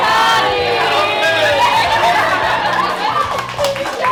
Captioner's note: group cheers